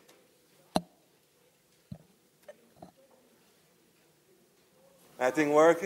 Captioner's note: people chattering faintly